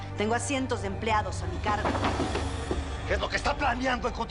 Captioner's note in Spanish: Ruido con una silla